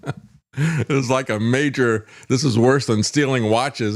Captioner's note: laughs